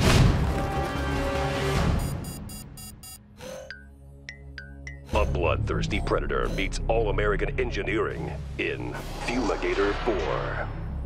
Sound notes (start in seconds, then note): 2.0 beeping